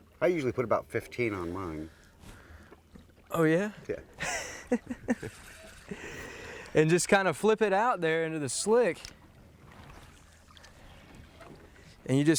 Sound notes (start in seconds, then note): 4.2 laughs